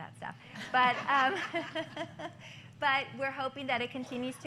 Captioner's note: laughter